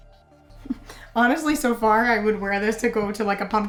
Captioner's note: chuckles